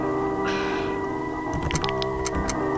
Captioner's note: annoyed sigh